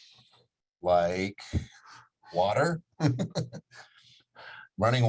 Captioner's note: laughs